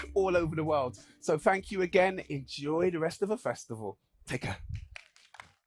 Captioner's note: applause